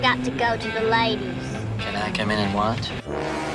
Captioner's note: disapproving sound effect